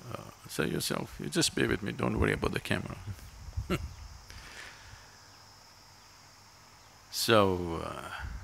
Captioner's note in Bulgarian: Смее се